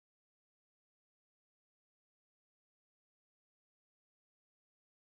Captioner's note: none